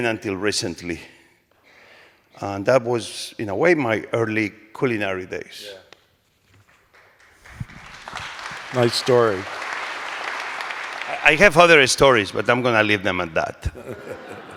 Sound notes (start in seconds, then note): 6.6 applause